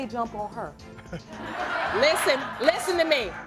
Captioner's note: audience laughing; laughing